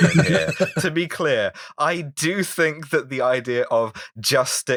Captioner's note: laughter